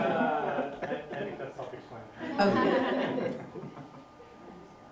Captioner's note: laughter